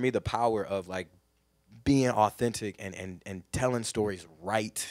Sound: none

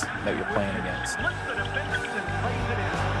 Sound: announcer broadcasting

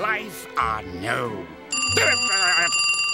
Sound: phone rings

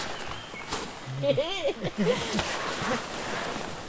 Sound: laughter

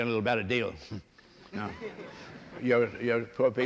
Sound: laughter

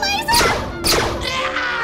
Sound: screams

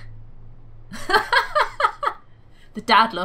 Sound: laughs

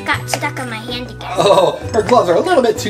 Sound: chuckles

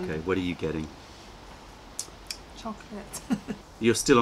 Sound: laughter

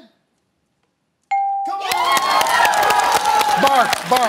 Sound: bell dings; applause

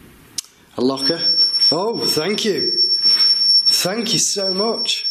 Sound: loud beeping

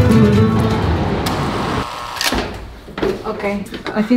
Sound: buzzing

